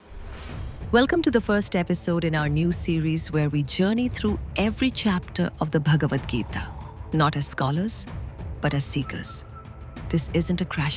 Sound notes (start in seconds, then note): 0.0 whoosh